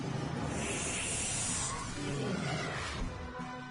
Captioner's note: threatening hissing